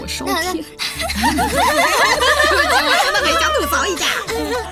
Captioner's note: everyone giggling